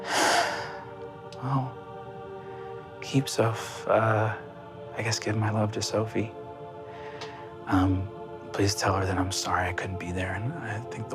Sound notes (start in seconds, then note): 0.0 sighs